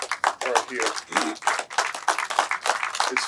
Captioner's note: clapping